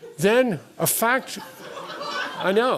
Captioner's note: laughter